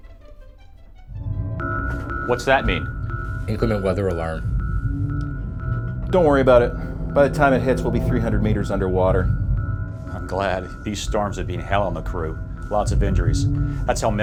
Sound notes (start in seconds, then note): 1.9 alarm beeping